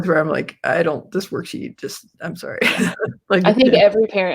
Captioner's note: laughs